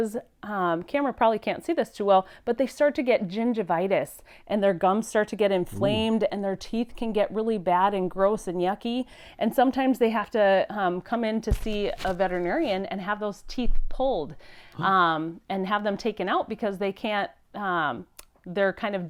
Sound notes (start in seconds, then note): 5.6 boink; 14.4 gasps